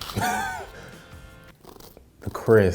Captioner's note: laughing